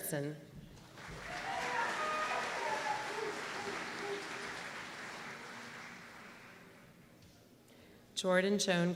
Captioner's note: applause